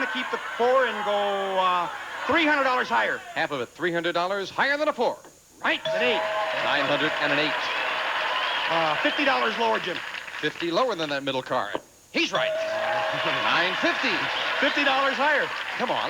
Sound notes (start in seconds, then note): 5.9 audience applauding; 12.3 audience cheering